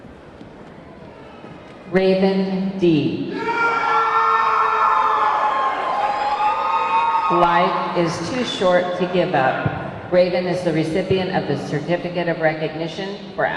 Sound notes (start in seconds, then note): 3.3 audience clamoring